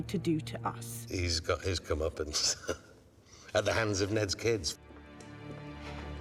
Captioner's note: laughs